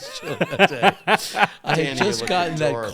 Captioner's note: laughing